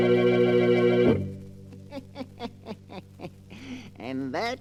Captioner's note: laughter